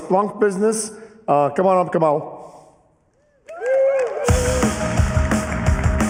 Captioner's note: cheers and applause